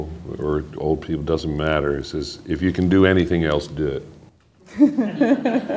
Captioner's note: laughter